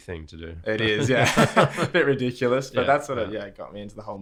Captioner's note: laughter